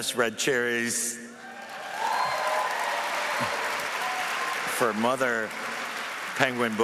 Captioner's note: applause